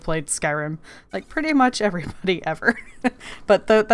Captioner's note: laughs